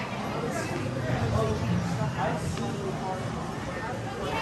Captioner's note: people chattering